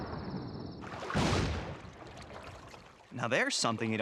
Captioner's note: boom